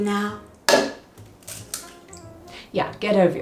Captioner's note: egg taps; egg cracks